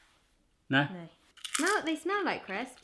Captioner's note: crunches